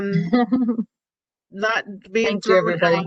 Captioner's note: laughter